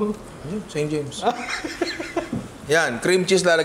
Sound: laughs

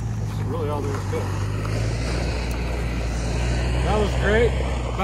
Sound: engine revving

